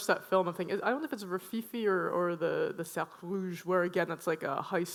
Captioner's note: speaks foreign language